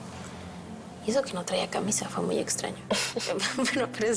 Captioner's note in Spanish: Risas